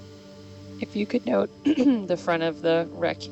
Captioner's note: clears throat